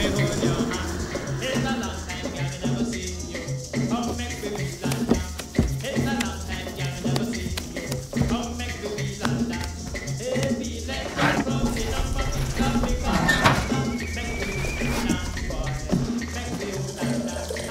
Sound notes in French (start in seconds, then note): 11.6 sifflement